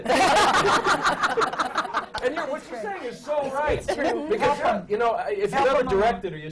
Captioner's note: laughter